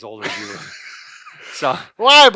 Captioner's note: laughs